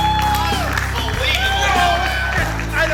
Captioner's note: voiceover; cheering and clapping; voiceover